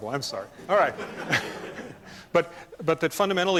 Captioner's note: laughter